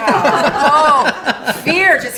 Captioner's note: laughing